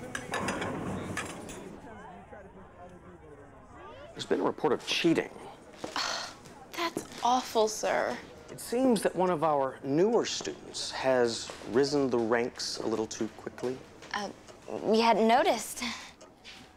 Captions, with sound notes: (muffled chatter) - There's been a report of cheating. - That's awful, sir. It seems that one of our newer students has risen the ranks a little too quickly. - We hadn't noticed.